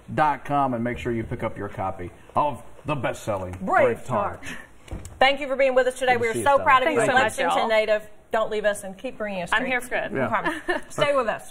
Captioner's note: laughter